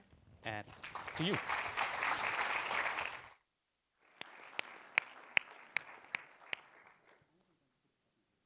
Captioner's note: applause